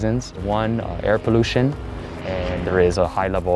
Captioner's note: airplane engine roaring